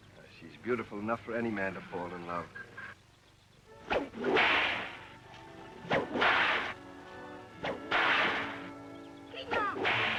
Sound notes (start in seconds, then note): 3.8 cracking whip